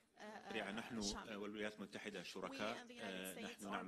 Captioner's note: speaks in Arabic